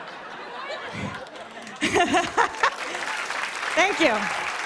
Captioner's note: laughter; applause